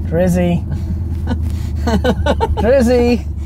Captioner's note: laughs